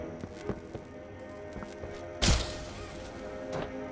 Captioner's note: gunshot; footsteps